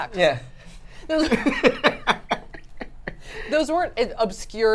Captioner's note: laugh